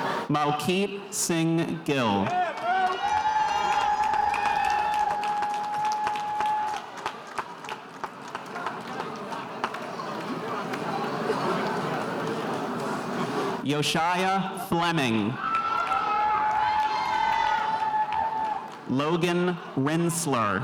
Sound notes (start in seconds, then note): 3.3 spectators cheering